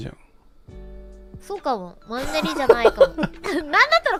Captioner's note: Rikka laughs